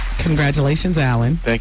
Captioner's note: audience applauding